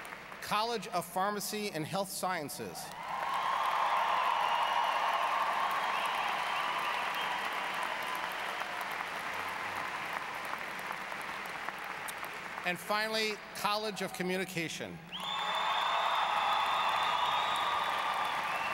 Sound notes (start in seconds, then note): 2.8 applause; 15.1 applause